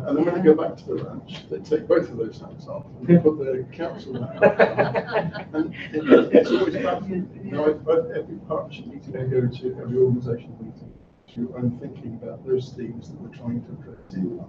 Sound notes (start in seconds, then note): 3.8 laughter